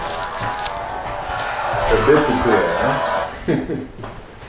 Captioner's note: cell phone ringtone